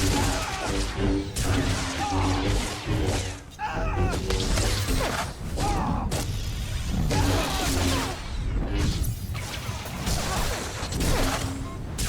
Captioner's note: gunshots